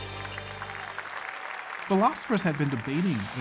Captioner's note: applause